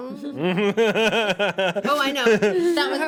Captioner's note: man laughs